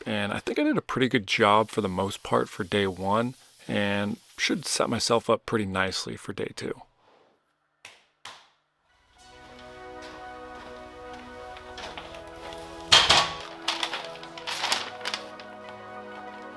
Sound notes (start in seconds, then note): 7.2 upbeat music; 12.9 door opening